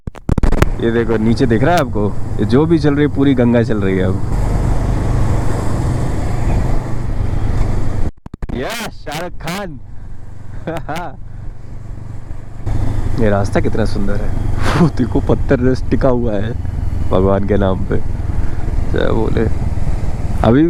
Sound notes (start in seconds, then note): 8.4 chuckles